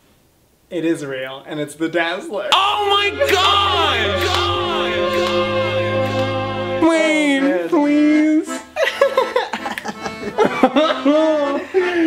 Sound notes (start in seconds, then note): 8.3 whining; 8.6 laughs sadly; 9.0 laughs and snaps